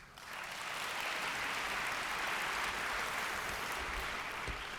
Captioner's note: audience applauds